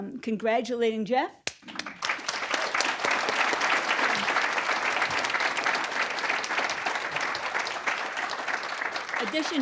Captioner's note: applause